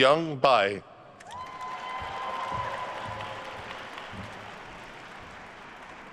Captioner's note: attendees cheering and applauding